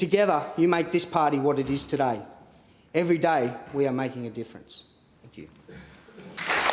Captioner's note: applause